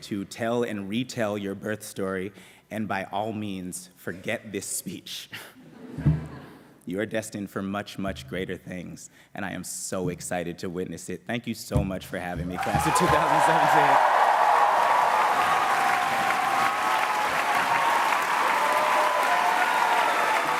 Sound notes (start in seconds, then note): 14.1 applause